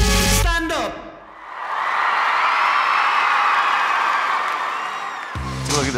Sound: audience cheers

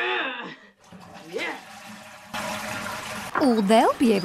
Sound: toilet flushing

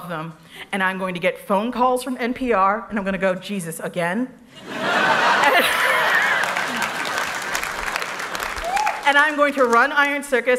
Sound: laughter

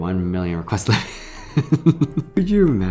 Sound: laughs

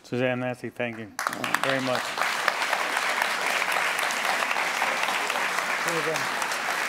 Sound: applause

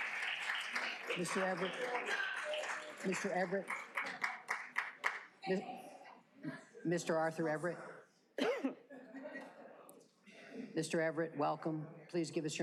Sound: applause

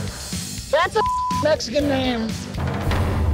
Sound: beep

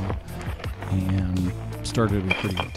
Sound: stone clinking

